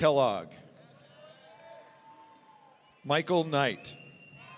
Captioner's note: audience cheering